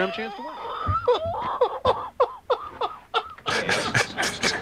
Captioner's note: laughing